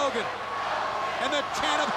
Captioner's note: crowd cheering